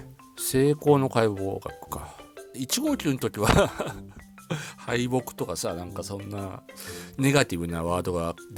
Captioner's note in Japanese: 笑い